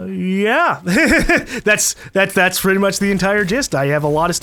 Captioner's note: laughs